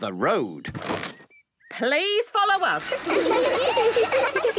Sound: laughter

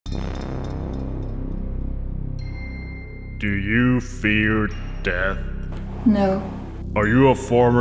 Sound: narrator , echoing

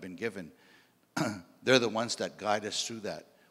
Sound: clears throat

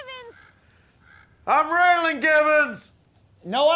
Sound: shouting

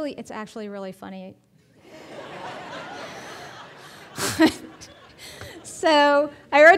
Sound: audience laughing

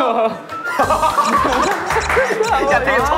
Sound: light steps

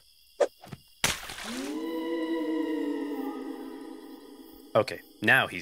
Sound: water splashing and upbeat sound

